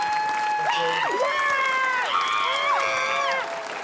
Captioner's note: screams